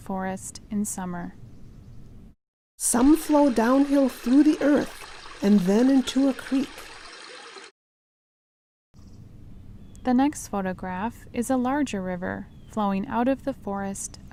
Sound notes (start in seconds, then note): 2.8 water sounds